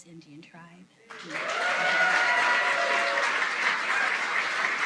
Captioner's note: cheering